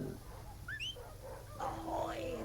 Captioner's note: whistling